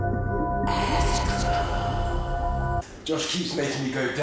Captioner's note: light hypnotic music; whispering